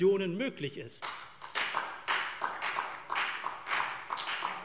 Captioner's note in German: Beifall CDU, BÜNDNIS 90/DIE GRÜNEN und SPD